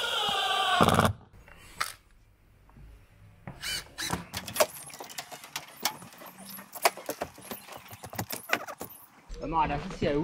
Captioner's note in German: klappern